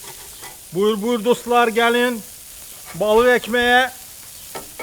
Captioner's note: speaking Turkish